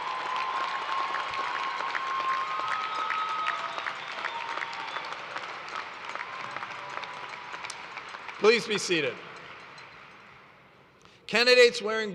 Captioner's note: cheers and applause